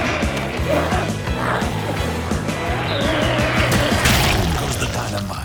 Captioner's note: energetic music continues; glowzies growling